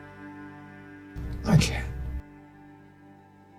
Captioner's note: voiceover